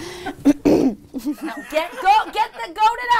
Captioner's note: clears throat; stammers